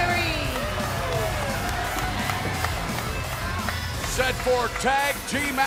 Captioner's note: crowd cheering